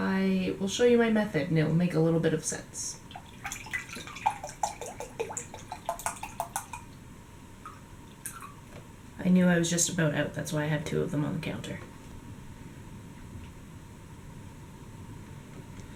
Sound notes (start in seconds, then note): 3.0 pouring sounds